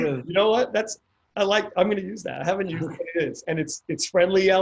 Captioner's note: laughs